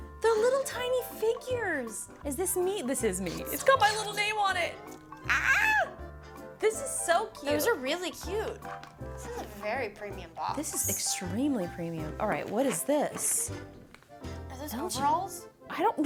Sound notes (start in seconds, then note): 5.2 yelps